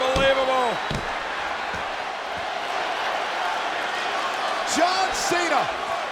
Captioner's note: applause